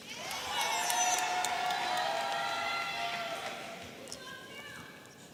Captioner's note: audience applauding and cheering